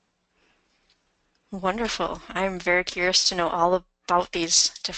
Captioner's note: voiceover